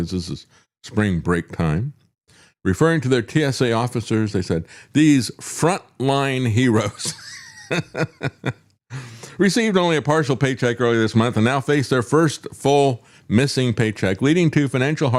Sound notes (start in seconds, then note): 7.0 laughs